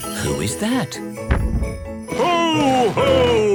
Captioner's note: thump!